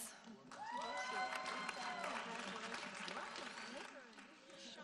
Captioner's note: audience applauding